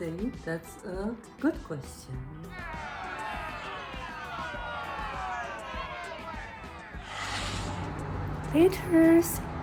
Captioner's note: booing audience in background